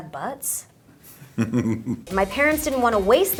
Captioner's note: Kelsey chuckles